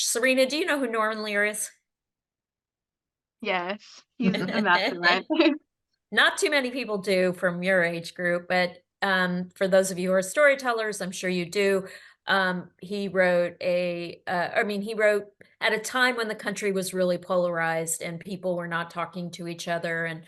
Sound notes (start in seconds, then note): 4.2 group laughs